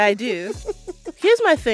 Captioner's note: laughter